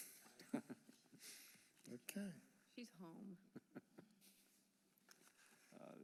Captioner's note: laughter